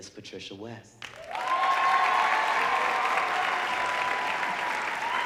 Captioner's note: audience applauding